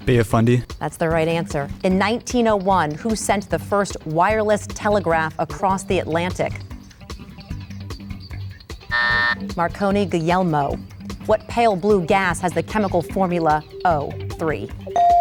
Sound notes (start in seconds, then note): 8.9 bell buzzes; 14.9 bell dings